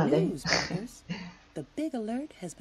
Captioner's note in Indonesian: Laugh